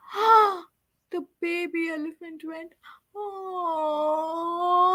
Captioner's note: gasps